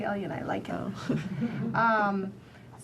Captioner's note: chuckles